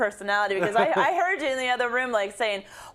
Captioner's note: laugh